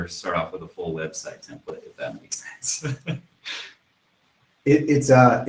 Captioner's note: laughs